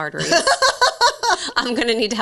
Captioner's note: laughing